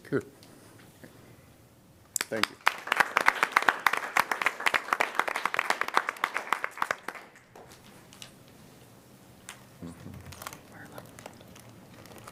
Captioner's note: applause